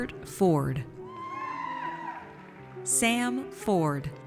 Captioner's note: audience cheers